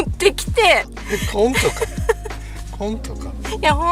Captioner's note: laughs